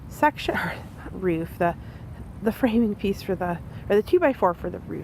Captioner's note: sighs